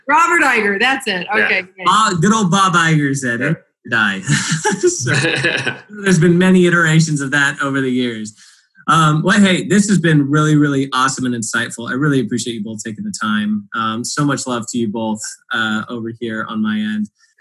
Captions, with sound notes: - Robert Eisner, that's it. Okay. - Yeah. - Bob, good old Bob Eisner said it. (laughing) There's been many iterations of that over the years. Well hey, this has been really, really awesome and insightful. I really appreciate you both taking the time. So much love to you both, over here, on my end.